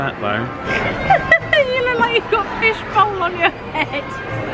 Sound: laughs

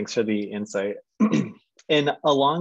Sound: clearing throat

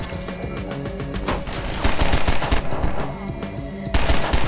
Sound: gunshots

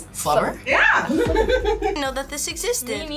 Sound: laughs

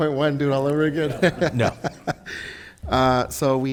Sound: laughs

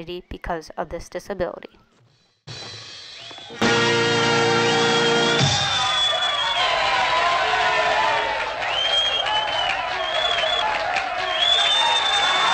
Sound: cheering and applause

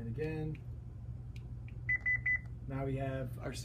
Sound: beeping

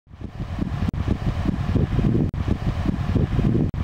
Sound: wind whooshing

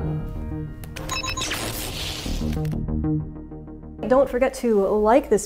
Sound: electronic bleeping

